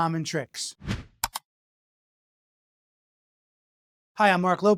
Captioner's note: titles whooshing